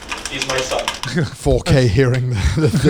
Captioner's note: item jiggling in container